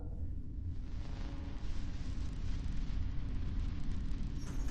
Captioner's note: static buzzing